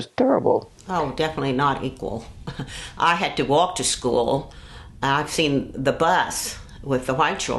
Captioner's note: laughs